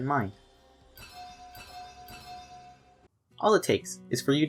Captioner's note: why you stupid? Ping noises